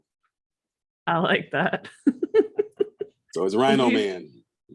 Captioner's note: laughs